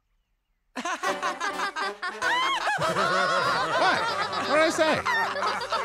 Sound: all laughing

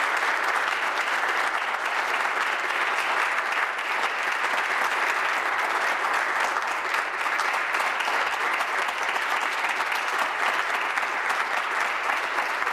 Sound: applause

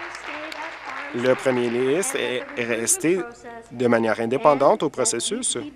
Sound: applause

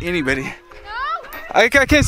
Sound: voices calling

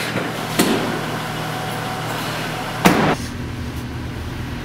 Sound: car door opens and closes

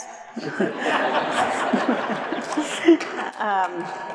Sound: audience laughs

